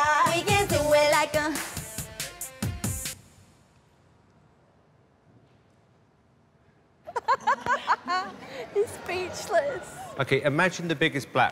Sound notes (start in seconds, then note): 7.0 laughter